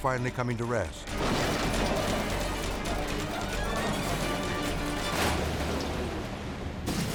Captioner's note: dramatic music; car crashing